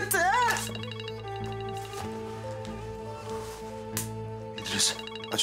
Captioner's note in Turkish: Telefon çalıyor